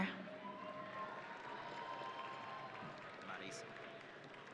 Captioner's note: audience cheering